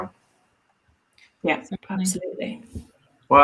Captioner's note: murmurs